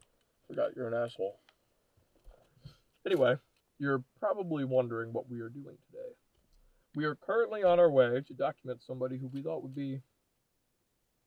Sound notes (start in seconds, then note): none